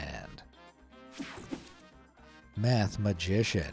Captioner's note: screen whooshing